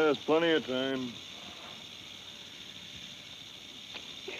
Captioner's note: snake rattles